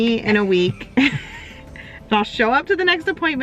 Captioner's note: both laugh